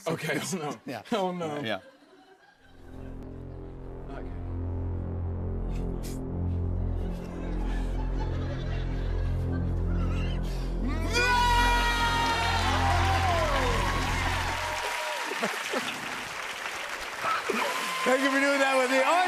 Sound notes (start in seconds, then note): 7.1 laughter; 10.9 both scream; 12.7 cheers and applause